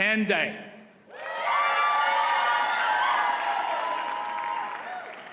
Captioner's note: audience cheers and applauds